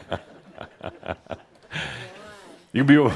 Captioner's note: laughter; Adamus chuckles